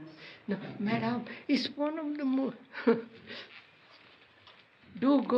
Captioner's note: laughs